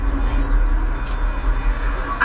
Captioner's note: engine sounds begin